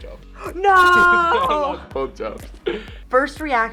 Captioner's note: laughs